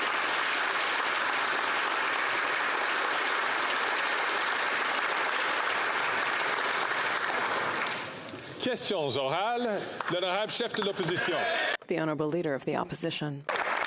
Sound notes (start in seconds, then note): 3.0 applause